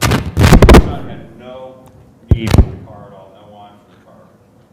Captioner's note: microphone distortion